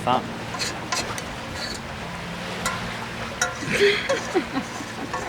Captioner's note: scraping; laughing